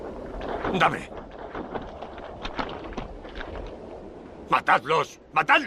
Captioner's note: Red Hawk speaks Spanish